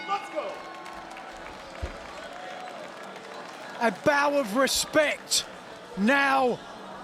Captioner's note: applause